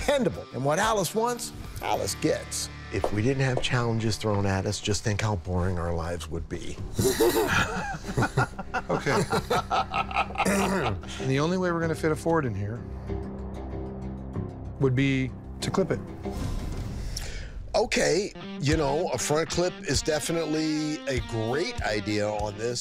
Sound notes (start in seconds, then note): 7.0 laughter; 10.4 clears throat